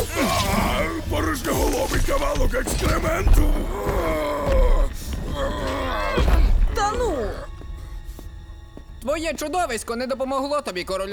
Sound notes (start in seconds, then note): 2.8 groans, eye pain